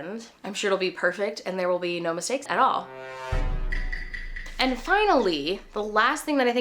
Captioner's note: Among Us Sus sound effect